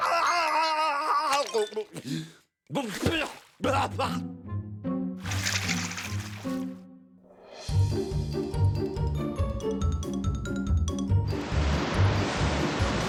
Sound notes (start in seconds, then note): 1.4 chokes; 1.7 spits, coughs